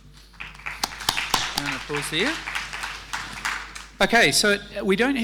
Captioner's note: applause and mumbles